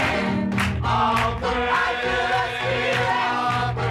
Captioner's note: lower voices; higher voices